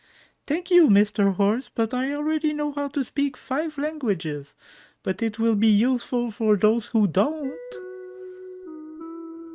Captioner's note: Nikki's voice